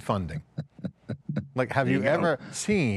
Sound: laughs

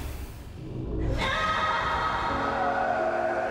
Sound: distant scream; yelling

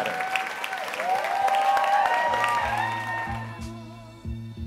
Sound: applause, Cheers

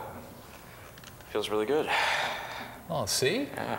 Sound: exhales

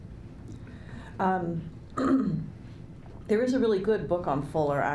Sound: clears throat

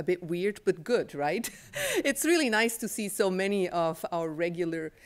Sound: laughter

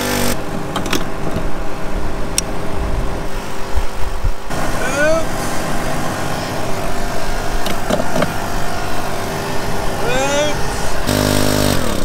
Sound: tractor sound

